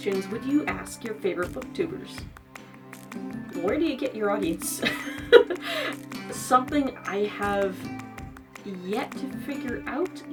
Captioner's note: laughs